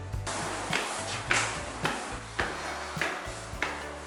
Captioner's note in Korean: 경쾌한 발걸음 소리